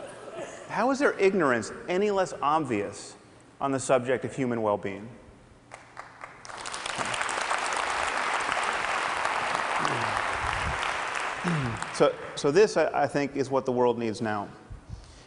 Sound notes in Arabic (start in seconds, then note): 5.1 ضحك